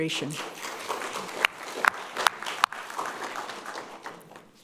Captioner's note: people clapping